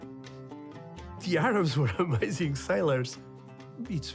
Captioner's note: laughing